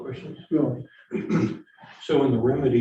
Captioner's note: clears throat